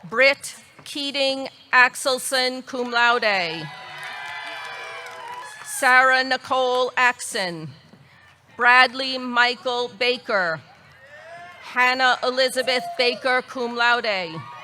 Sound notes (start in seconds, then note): 3.6 audience cheering; 3.7 audience clapping